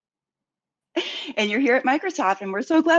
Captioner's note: laughs